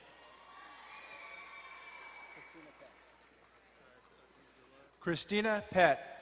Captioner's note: crowd cheering and applauding